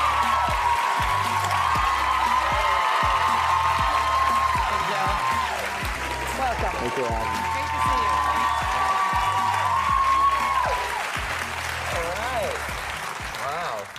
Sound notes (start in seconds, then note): 9.5 applause